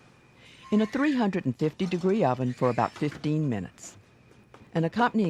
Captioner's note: voiceover